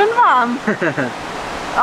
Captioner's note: laughs